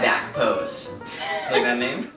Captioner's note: laughs